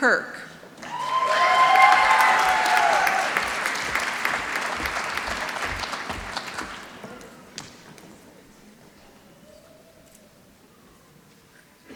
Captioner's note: applause